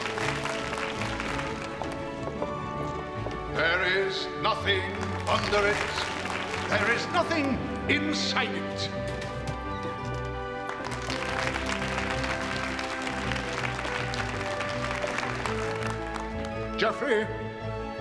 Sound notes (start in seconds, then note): 0.0 applauding; 10.6 applauding